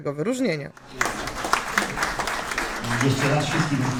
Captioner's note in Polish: oklaski